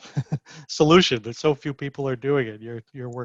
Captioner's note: chuckles